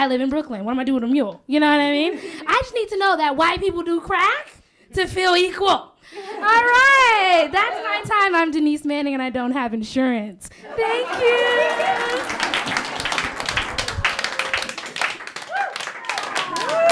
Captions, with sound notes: I live in Brooklyn, what am I gonna do with a mule, you know what I mean? I just need to know that white people do crack to feel equal. All right, that's my time. I'm Denise Manning and I don't have insurance. Thank you. (laughter) (applause)